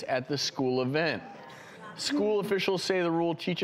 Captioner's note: audience mumbling